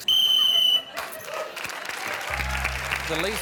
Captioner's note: whistle blows; applause